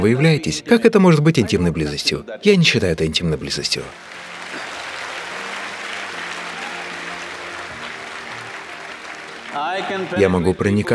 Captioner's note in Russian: Аплодисменты